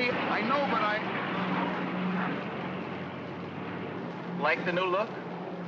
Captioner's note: vehicle rumbles away